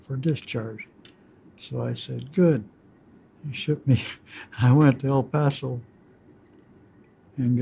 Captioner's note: laughs